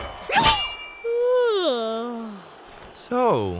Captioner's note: yawning